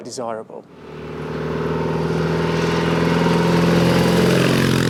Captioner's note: engine roars